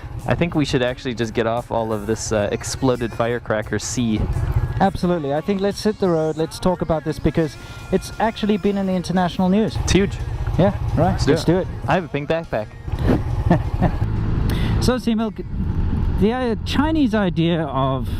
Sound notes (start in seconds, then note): 12.9 laughs